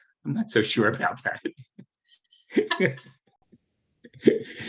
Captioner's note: laughing